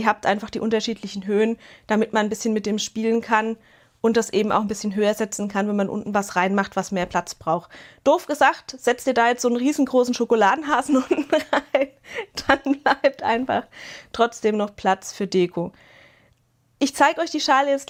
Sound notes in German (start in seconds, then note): 10.9 Gelächter